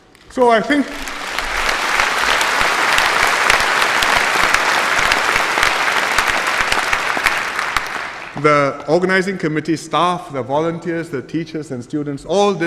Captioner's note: applause